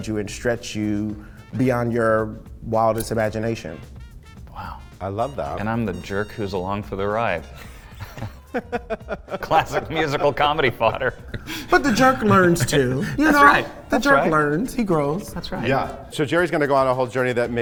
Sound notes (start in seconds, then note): 7.7 J. laughing